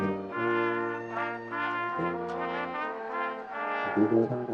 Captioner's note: attendees cheering; classical music